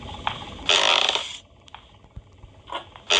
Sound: ground creaking

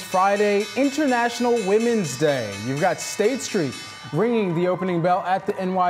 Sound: bell ringing

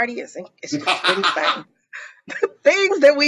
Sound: laughs

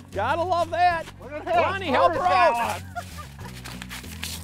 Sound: laughing

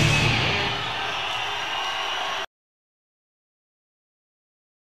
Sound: audience cheering

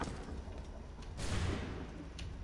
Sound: gunshot

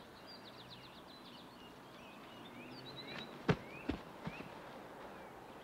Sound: ball thudding

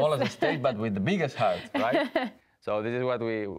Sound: laughs

